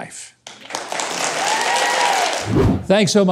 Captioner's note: audience applauds